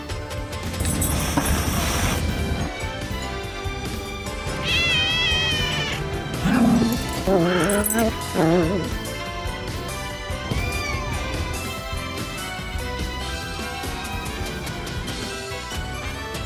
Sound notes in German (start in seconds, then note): 0.7 Caprice zischt; 4.5 Caprice miaut; 4.6 Ella knurrt; 10.1 Caprice miaut